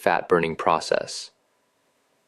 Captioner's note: pause